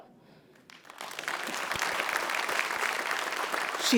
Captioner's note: applause